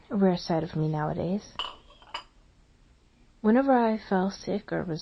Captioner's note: tea cups clanking on table